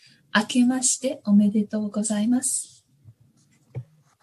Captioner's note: speaks in Japanese